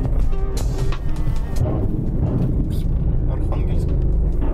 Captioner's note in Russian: звуки проезда по мосту